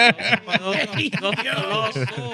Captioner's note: laughing